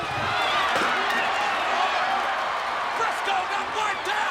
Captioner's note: audience cheers